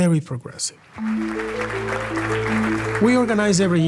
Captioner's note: applause